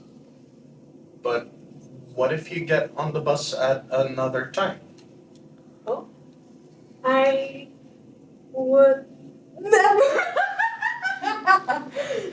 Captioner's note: laughs loudly